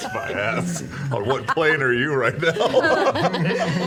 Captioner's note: laughs